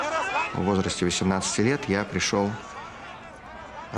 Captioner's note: Vladimir speaking Russian